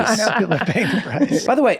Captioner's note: everyone chuckles